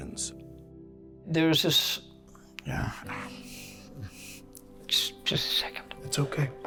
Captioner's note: sighing